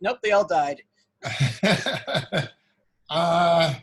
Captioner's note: laughs